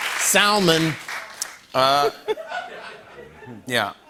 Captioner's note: laughter